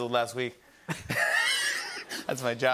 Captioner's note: both laugh